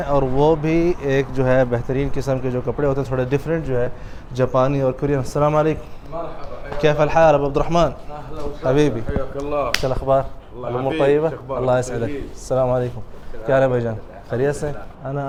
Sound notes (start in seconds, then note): 6.8 Arabic; 15.1 Arabic